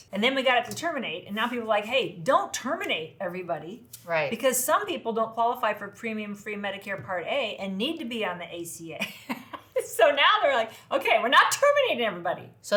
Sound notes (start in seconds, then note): 9.0 chuckles